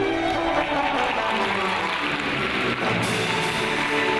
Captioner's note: audience applauds